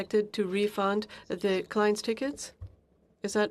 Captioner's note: speaking french